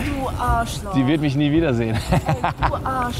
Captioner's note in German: lacht